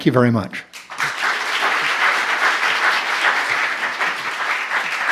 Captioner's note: applause